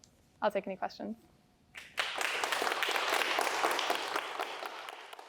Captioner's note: applause